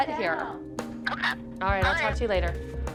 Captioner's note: on phone